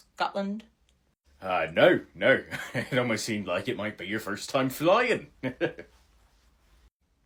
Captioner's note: chuckles